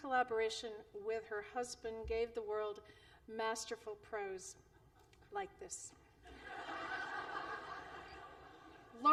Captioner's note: laughter